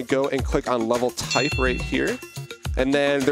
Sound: bell dinging

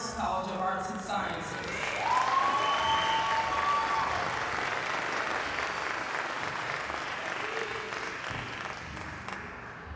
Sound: applause

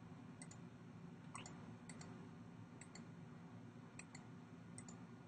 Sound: clicking

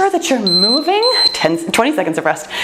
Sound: timer beeping

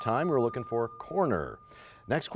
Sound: bell rings, time expires

